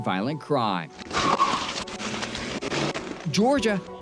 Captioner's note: engine roaring